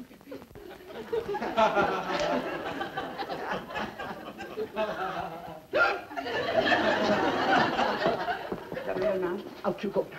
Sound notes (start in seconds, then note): 5.7 hiccups